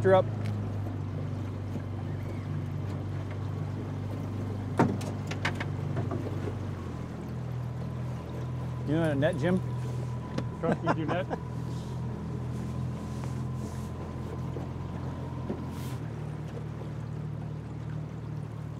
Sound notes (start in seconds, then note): 2.7 boat engine idling; 10.6 laughing